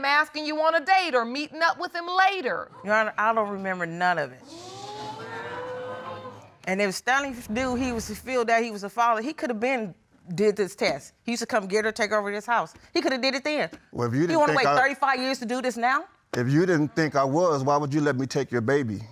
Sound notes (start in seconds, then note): 4.4 audience gasps